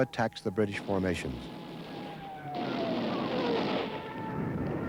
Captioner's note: gun bangs